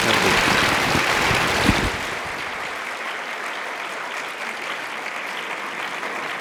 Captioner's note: audience applauding